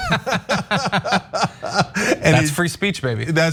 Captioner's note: laugh